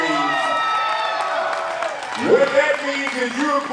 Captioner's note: audience cheering